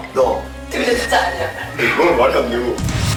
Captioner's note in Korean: 의미심장한 웃음